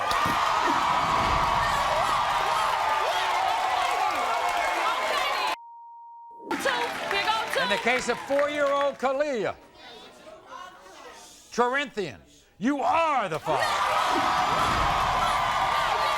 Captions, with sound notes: (audience cheers) - What, what? (beep) Here go two. - In the case of four year old Caliyah, Troyrinthian, you are the father. (audience cheers) - What, what?